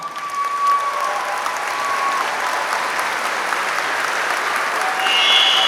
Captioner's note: applause